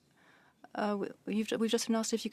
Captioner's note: speaking French